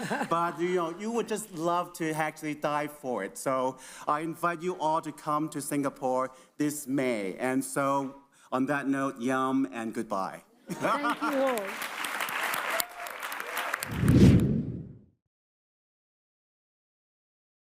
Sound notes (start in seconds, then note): 12.4 audience applauds; 13.9 logo rumbles